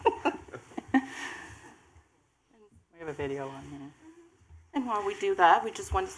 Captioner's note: laughter